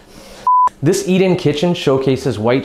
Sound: beep

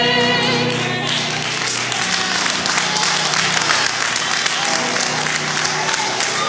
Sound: applause; cheering

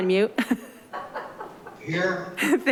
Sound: giggles

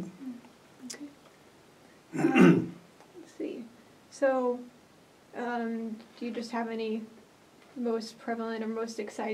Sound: clears throat

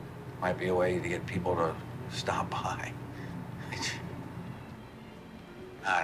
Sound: laughing

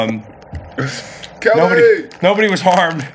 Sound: laughs

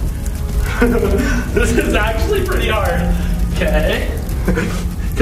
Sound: laughing

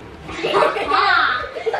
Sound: both laugh

